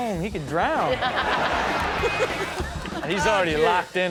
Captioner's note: audience laughs